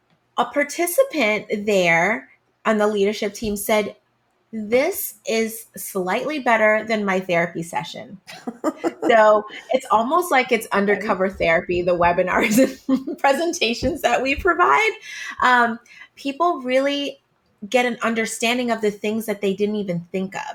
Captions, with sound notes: a participant there on the leadership team said, “This is slightly better than my therapy session.” So it's almost like it's undercover therapy... [Laughing] the webinars and presentations that we provide. People really get an understanding of the things that they didn't even think of.